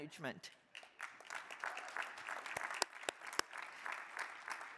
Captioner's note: crowd applauding